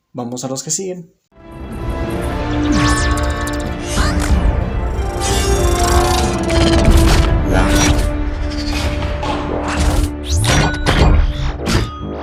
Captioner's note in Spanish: Sonido de transformación de la tercer película